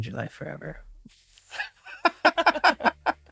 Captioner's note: laughing loudly